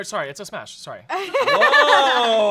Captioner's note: laughs